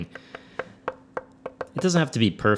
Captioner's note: tapping